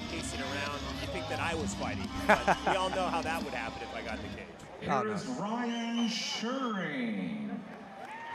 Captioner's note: laughs